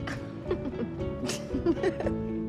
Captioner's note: laughs